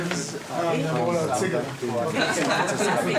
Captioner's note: classroom chatter